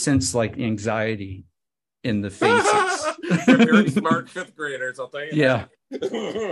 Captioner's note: laughs